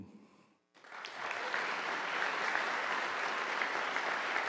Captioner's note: audience applauding